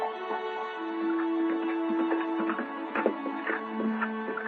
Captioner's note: horse trotting